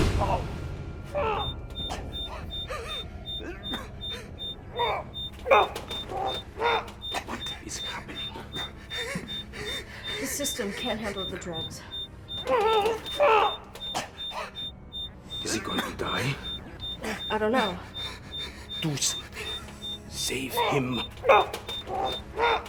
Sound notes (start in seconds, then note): 1.1 grunting; 4.7 groaning